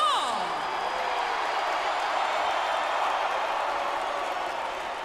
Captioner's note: crowd cheers